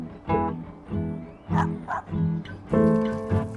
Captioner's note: dog bark